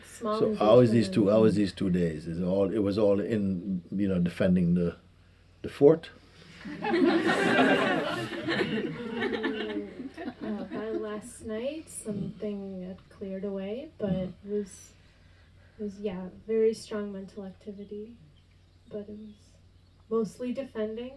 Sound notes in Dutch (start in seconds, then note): 9.2 gelach